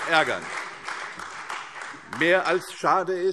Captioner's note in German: Beifall CDU, AfD und vereinzelt Freie Demokraten